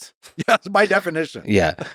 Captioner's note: laughs